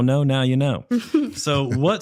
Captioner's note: chuckles